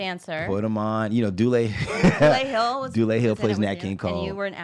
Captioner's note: laughs